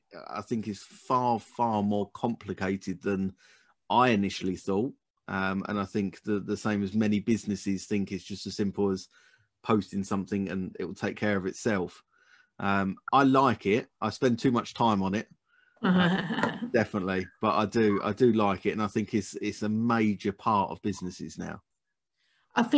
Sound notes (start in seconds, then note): 15.8 chuckles